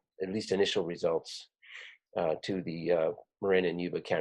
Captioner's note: none